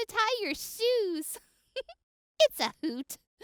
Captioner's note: giggles